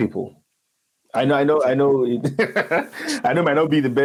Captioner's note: laughs